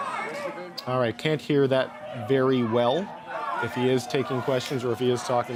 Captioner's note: mixed chanting and voices